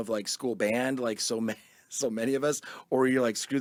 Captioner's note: laughs